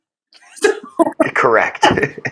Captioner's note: laugh